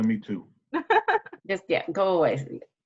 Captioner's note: laughing